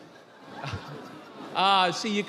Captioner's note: audience laughing